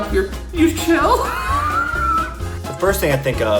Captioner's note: laughs